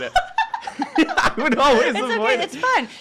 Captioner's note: laughter